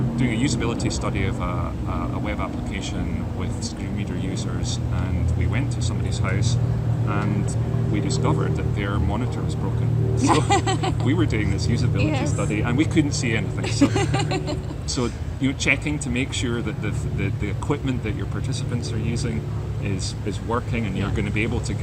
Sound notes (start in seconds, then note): 10.2 laughs; 14.2 laughs